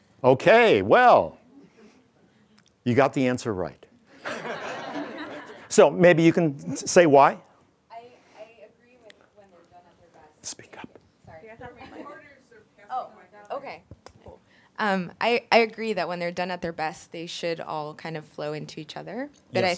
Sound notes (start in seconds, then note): 4.1 all laughing